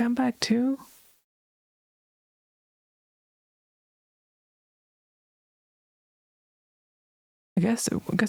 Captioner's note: audio cuts out